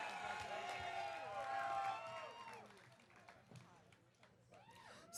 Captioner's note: audience cheering